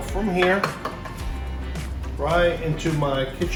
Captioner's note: taps spoon